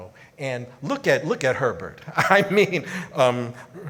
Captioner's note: laughs